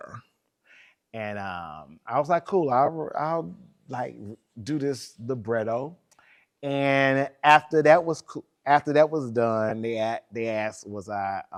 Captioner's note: laughs